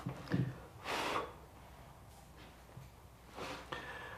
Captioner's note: air blowing